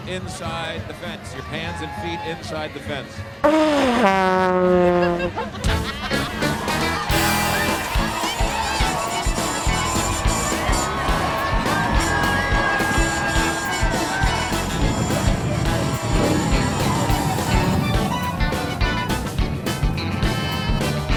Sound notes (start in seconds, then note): 3.4 vuvuzela blows; 4.8 laughter; 7.3 crowd happily</b> <b>chattering and cheering; 11.8 jaunty accordion music